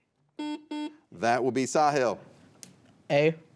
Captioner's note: buzzer beeps